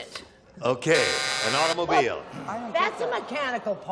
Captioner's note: buzzer